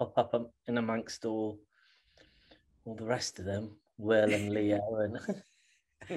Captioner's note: laughter